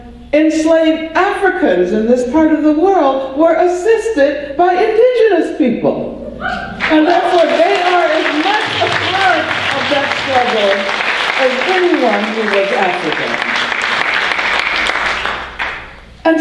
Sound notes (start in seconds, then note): 6.8 audience applause